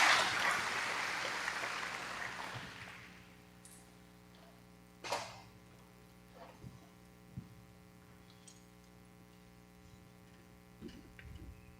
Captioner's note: applause